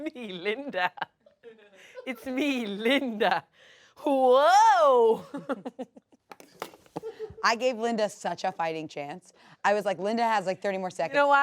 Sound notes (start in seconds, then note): 5.0 laughs